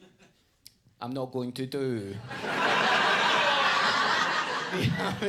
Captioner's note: audience laughs